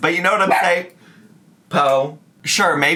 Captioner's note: Po barks